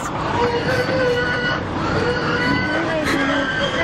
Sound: squealing

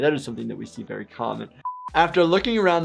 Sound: buzzer beeps

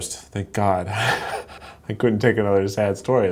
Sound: laughs

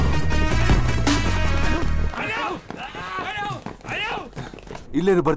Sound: Malay Language

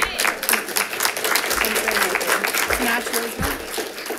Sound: congregation claps

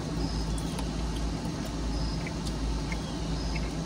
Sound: chewing

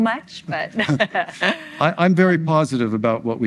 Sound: laughs

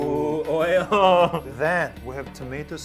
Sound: laughing

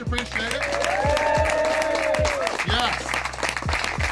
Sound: crowd cheering

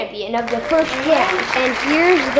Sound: clapping

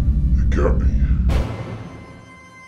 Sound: deep voice

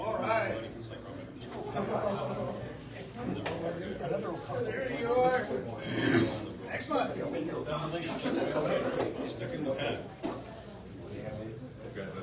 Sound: indistinct chatter

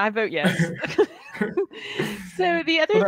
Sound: both laughing

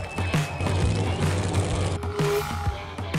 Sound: rock music; engines revving

